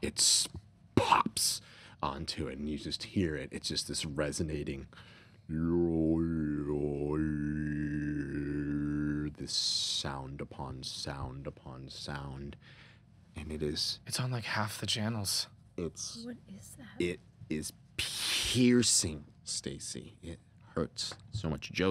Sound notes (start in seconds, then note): 5.5 humming